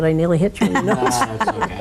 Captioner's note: people chuckle